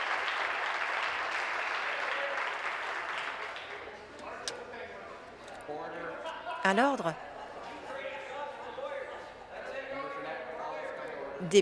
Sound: applause

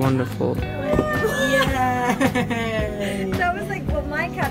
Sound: laughs

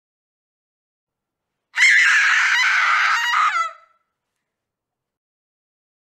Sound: terror scream

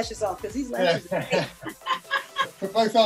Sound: everyone laughs

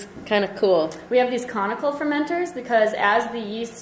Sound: voiceover

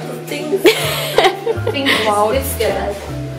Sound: laughs

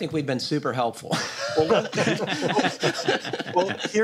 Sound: laughter

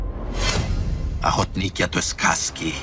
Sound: speaking Russian

